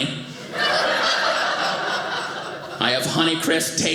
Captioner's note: audience laughing